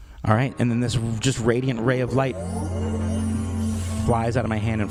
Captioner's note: magical sound effect